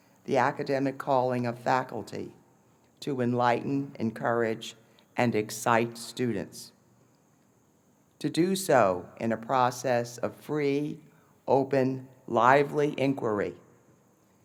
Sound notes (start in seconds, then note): none